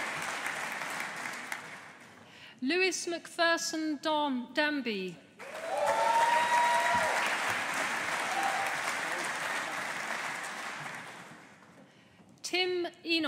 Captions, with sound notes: Lewis Macpherson Danby. (AUDIENCE APPLAUDING) Tim Enos.